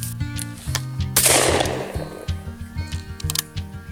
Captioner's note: gun shot